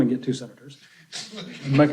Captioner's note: laughter